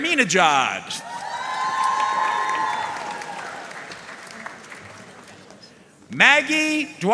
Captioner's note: audience cheering and applauding